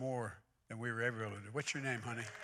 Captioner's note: applause